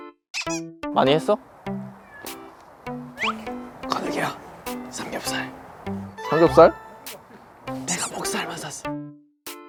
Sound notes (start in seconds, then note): 4.0 whispering